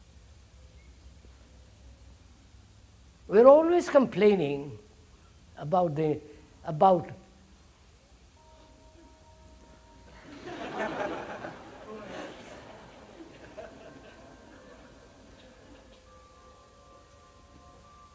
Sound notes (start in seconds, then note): 7.3 laughter; 8.4 church bell